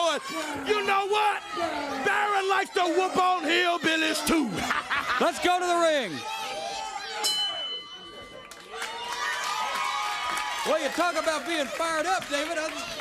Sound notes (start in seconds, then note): 7.0 bell ringing; 8.7 crowd cheering